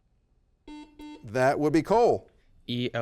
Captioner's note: double beep